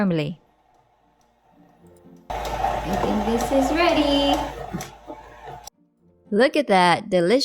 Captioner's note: mixer grinding